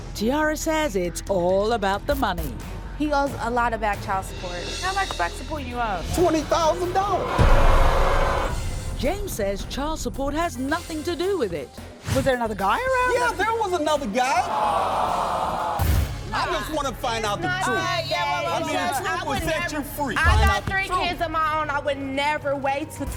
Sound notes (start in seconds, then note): 6.2 audience booing; 14.4 audience booing